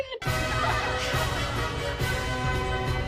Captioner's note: audience laughs